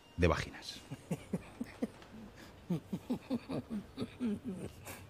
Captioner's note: laughs